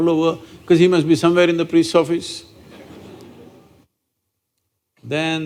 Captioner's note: few Laugh